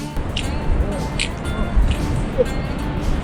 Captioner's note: sounds of slipping on the hill